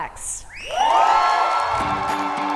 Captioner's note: audience cheer; upbeat music